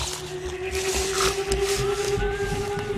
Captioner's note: snarling and growling; whistling